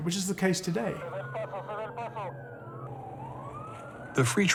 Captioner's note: siren blaring; officer speaks in Spanish